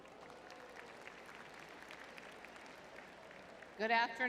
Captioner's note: crowd cheering